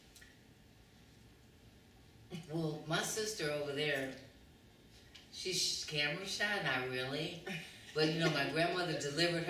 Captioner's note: laughter